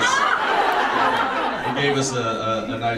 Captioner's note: audience laughs